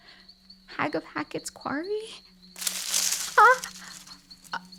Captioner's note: loud rustling